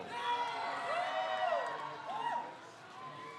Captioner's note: crowd cheers